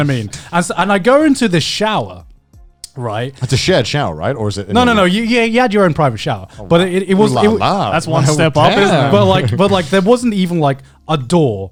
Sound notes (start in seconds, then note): 0.0 chuckling; 6.6 exclaiming